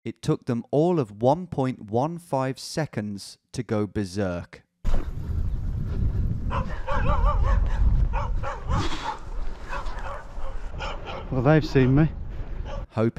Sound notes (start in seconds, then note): 6.4 dogs barking; 13.0 voiceover